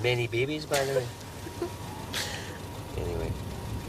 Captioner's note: francine giggling